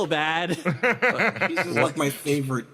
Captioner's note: laugh